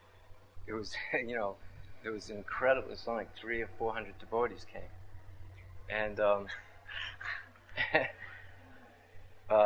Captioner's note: laughter